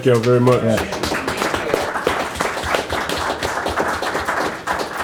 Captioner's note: audience applauds